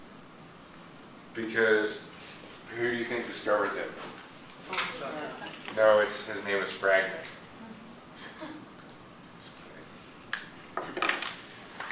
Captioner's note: laugh